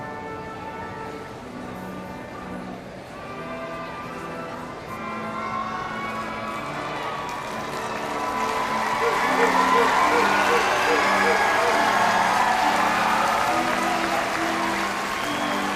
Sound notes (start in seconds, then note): 6.7 audience cheering and applauding